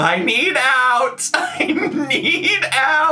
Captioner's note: laughs